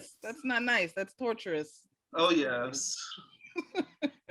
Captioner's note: laughing